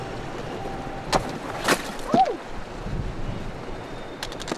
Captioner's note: yells